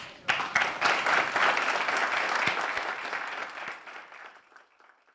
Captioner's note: applause